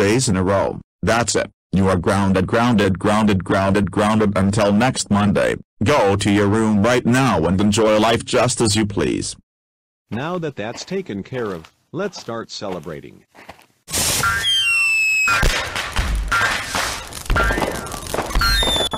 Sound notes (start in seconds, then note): 0.0 Eric voice; 10.3 normal voice; 15.2 fireworks, Bouncing on Bed